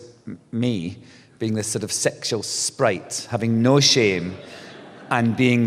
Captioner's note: laughter